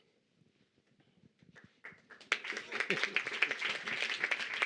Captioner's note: applause